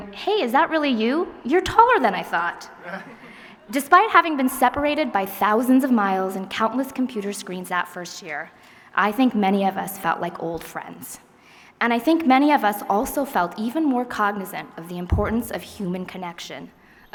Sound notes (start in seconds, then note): 2.8 laughter